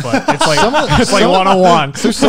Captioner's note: laughs